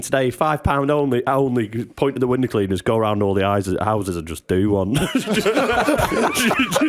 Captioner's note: laughter